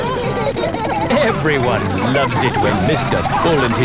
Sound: laughing

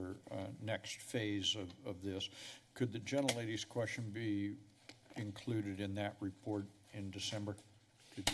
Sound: none

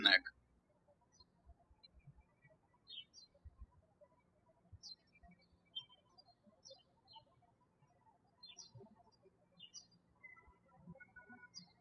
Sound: birds chirping

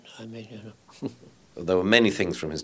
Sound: laughs quietly

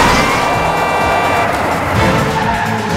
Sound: brakes; car horns; brake and crash

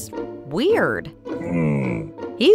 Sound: Camelot grunting

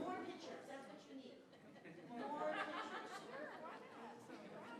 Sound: people chattering

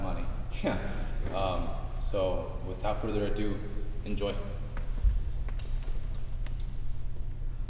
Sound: laughing

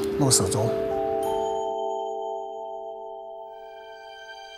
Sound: sound of bell

